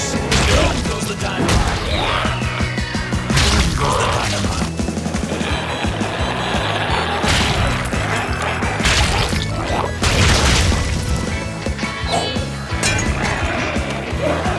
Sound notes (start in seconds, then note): 5.3 energetic music continues; 7.2 goo splatters; 11.3 energetic music continues